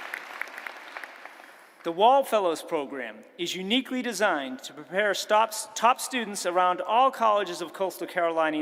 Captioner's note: applause